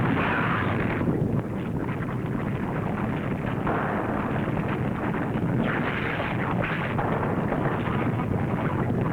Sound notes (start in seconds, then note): 0.8 volcano rumbling